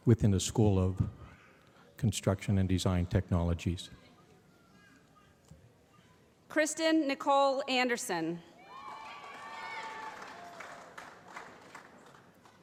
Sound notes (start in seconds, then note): 8.6 cheering